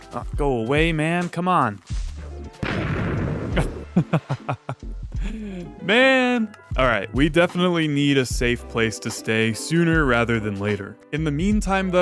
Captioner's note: laughs